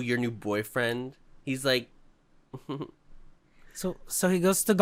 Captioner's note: giggles